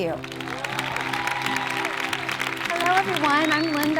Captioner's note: audience applauding